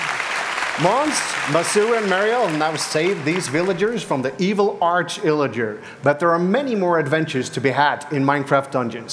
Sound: applause

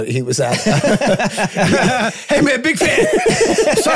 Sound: group laughing

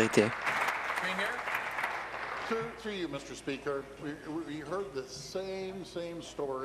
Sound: applause

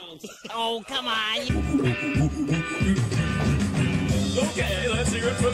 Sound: Fatz making monkey noises

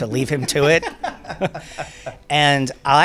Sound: Tyler H. laughing

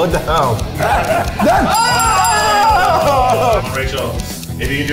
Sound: laughs; all cheer

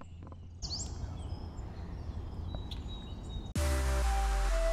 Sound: birds

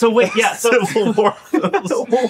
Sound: laughing

